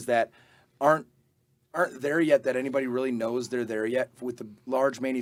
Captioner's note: none